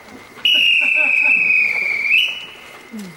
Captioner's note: whistles